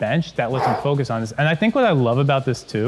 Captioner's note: breathes out